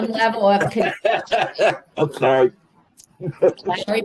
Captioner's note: laughter